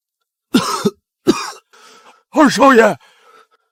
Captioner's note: cough